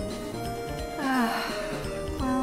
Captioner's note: sigh of pain